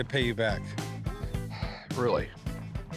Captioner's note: sighs